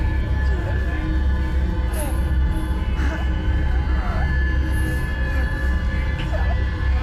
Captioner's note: muffled 1920's music; soft intense music; Clint groaning softly